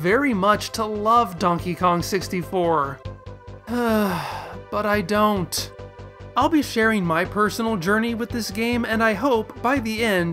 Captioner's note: sigh